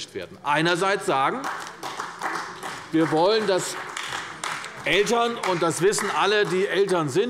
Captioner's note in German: Beifall bei Abgeordneten der CDU